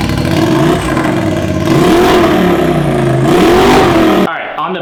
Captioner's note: engine revving